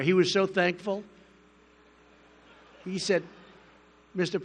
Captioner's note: laughter